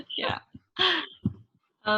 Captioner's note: laughs